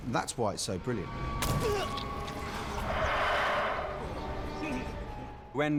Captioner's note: creature hisses